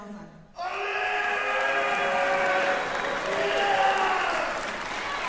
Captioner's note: cheering